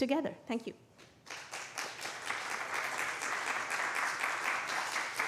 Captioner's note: applause